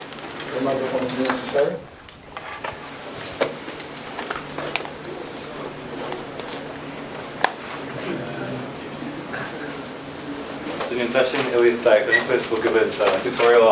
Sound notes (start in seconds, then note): 8.4 background chatter